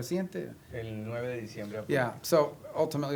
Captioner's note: spanish; speaking spanish